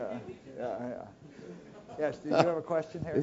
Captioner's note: laugh